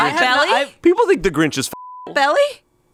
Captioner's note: beep